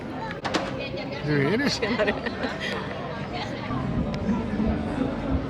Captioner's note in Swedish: skratt